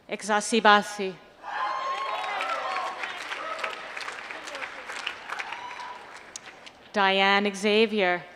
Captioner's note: applause